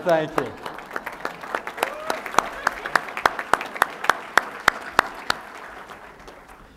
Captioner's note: applause